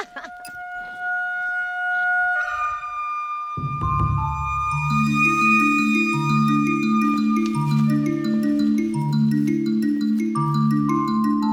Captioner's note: laughs